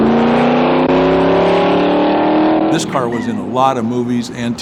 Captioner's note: car engine revs